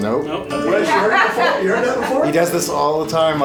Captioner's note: laughter